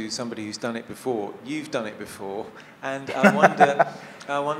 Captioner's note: laughs